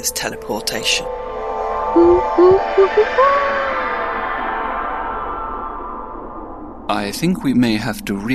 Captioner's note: teleportation sound